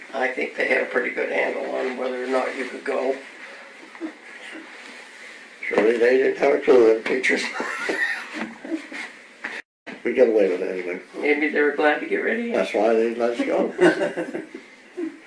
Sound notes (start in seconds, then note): 7.4 laughs; 13.4 laughter